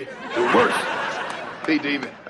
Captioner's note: audience laughs